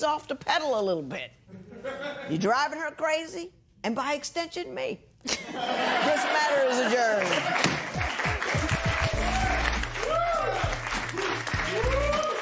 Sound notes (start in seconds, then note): 5.2 laughter; 8.7 cheers and applause